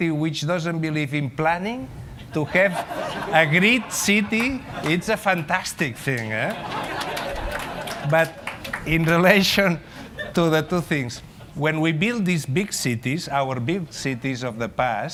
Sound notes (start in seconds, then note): 6.4 laughter